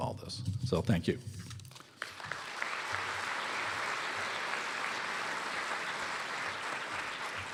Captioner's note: applause